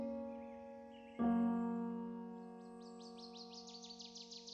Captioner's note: birds chirping; piano music